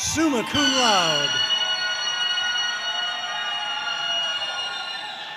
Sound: audience cheering

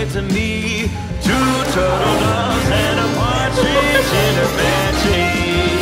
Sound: laughter

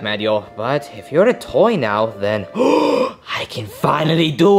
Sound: gasping

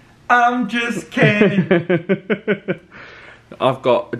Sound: laughs

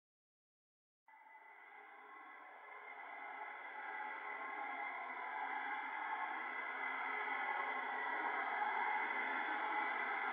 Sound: sound of phantom train

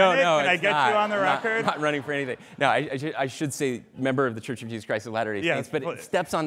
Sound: laughter

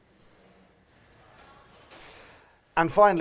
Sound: silence

